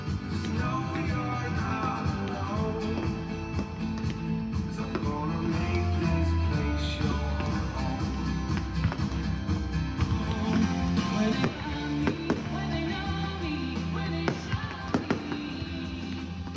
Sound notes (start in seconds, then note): 8.4 energetic music; 8.4 firecrackers booming